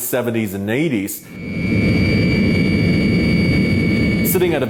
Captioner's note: plane engine roaring